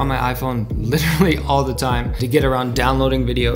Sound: chuckles

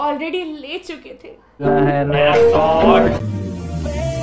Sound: bonk

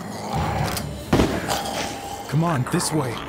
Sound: gun fires

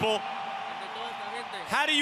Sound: speaking Spanish

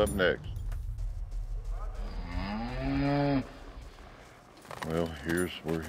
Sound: cow moos

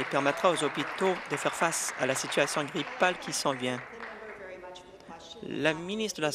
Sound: applause

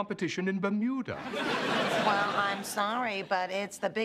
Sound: laughter

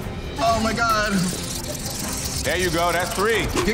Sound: rats squealing

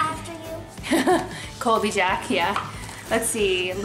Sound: laughs

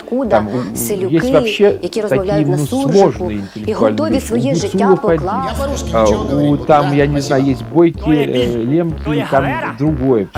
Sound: russian-worlders grunting

